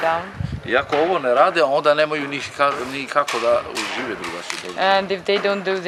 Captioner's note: speaks in foreign language